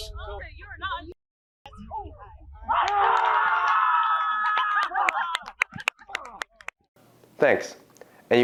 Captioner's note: students cheering